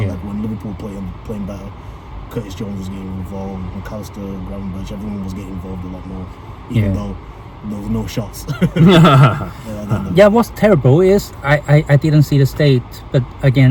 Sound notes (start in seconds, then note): 8.4 laughing; 8.4 笑聲